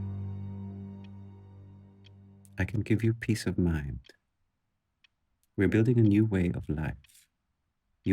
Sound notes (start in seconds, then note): 2.4 clock ticking